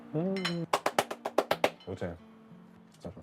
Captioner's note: applause